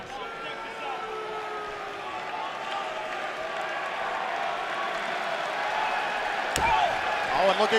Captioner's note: cheers & boos